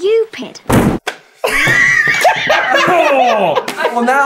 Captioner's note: wonderful giggles